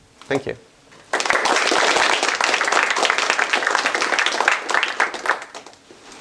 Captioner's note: applause